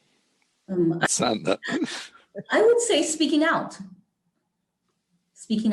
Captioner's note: laugh